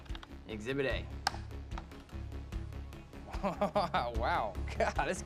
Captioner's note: laughing